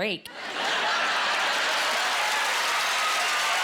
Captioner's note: laughing